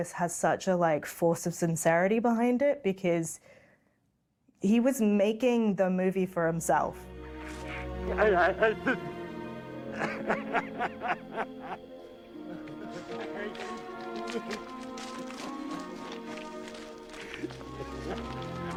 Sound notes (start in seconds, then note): 7.5 Schindler sobbing; 7.6 somber music